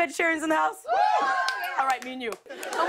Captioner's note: light cheering